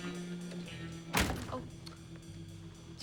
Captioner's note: ominous music; clunk